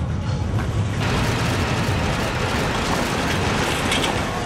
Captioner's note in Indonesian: suara seismograf